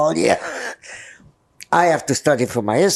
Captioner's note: laughing